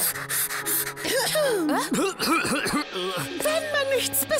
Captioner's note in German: Hustet